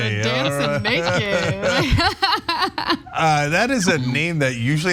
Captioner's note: laugh